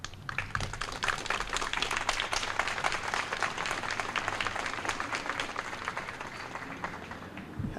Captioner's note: applause